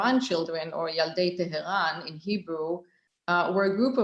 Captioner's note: speaking hebrew